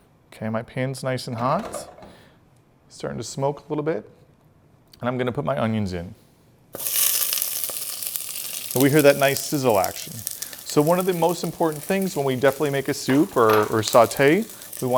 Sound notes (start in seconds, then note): 6.7 pan sizzling